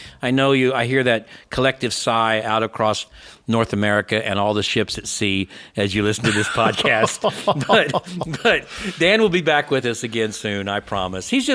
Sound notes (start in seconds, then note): 6.2 laughing